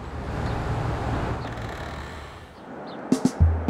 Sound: puerta abriendo

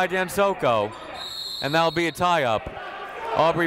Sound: whistle

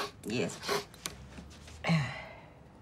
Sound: grunts

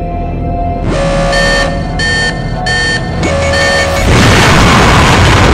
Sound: alarm beeps

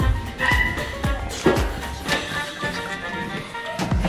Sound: dog barks

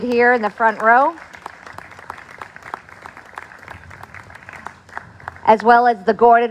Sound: applause

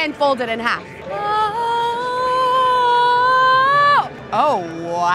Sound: vocalizes

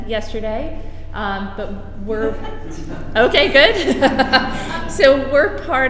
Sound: laughter

